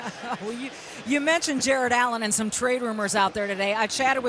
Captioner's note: chuckles